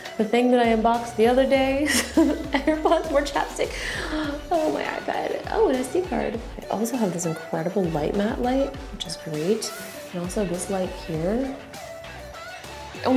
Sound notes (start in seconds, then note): 0.0 laughs; 1.6 laughs; 3.6 sighs